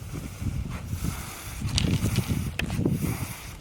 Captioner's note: fogger hissing